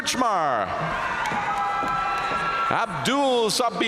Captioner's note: audience cheering and applauding